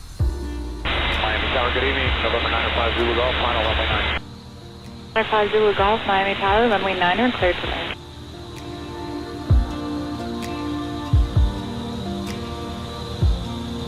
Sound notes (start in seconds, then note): 1.4 speaks over radio; 11.2 serene music